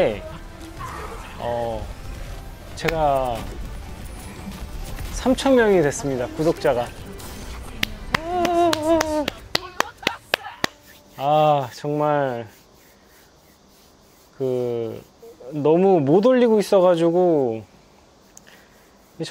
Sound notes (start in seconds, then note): 7.7 clapping for seals!